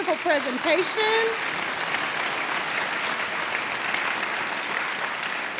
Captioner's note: audience appluading